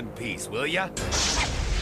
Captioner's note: crashing